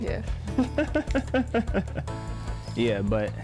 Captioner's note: laughs